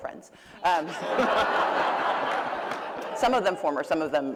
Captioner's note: laughter